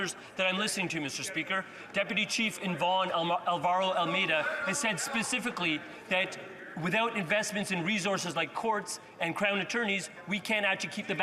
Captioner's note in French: voix de l'interprète